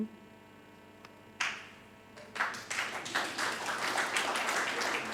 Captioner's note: audience applauding